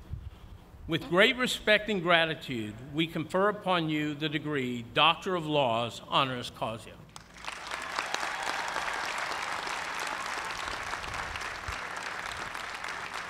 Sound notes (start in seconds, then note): 7.2 cheers and applause